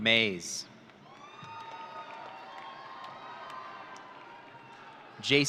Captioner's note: audience cheering